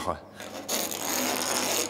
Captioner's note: scraping noises